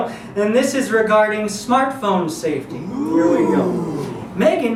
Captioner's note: audience ooh's